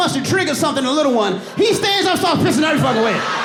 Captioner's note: audience laughing